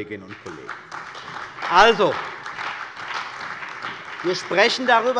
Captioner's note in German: Beifall bei der CDU und dem BÜNDNIS 90/DIE GRÜNEN